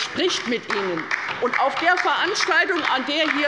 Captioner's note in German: Beifall bei der LINKEN